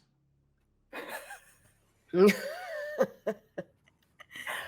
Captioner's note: people chuckling